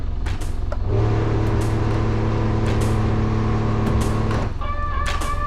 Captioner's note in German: Bootsmotor dreht auf